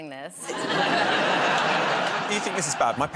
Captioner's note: laughter